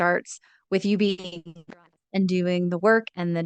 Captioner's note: speaks faintly